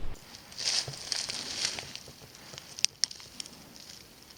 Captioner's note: brush rustling